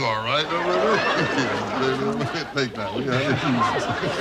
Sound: laughing

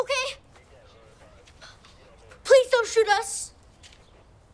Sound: police radio chatter

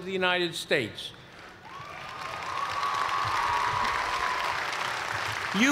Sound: cheers and applause

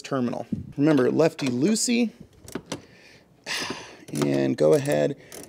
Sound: sighs

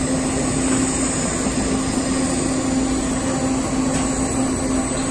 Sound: welding torch sizzling

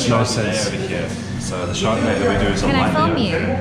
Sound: speaks off mic

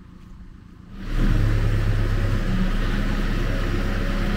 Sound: engine revving

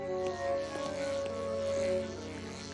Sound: buzzing sound

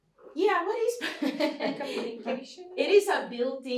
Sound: laughter

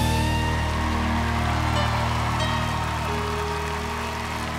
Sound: applause and cheering

